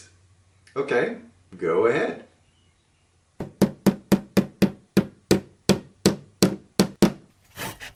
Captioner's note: bang, bang, bang, sawing, construction noises